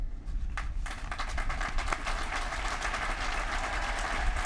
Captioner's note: applause